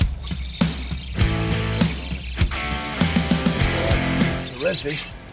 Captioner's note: fishing reel squealing